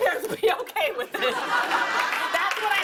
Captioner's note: laughter